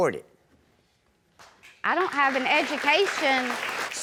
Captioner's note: audience applauds